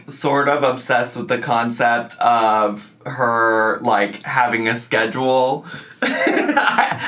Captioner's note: laughs